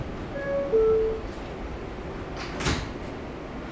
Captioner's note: train dings